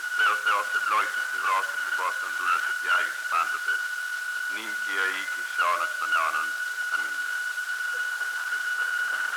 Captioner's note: speaking in Greek